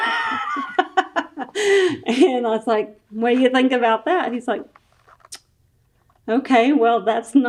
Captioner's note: laughs